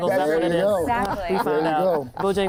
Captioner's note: laughter